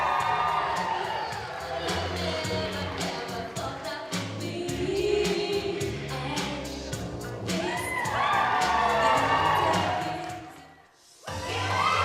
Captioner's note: crowd cheering